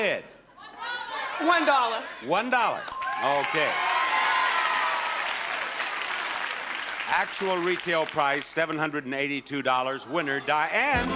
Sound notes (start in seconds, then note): 3.1 audience clapping